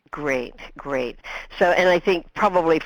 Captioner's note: voiceover